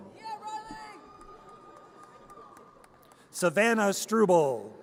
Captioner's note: audience cheers